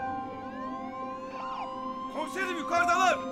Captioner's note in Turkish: Siren sesleri